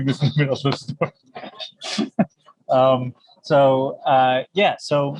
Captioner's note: laughs